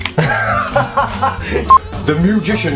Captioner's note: laughs